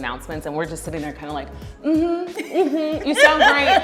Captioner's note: laughs